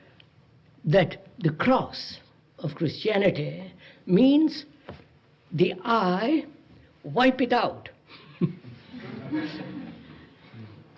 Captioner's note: laughter